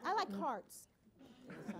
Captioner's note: laughter